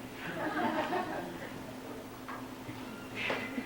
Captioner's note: laughter